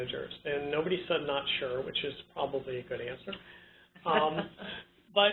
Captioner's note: laugh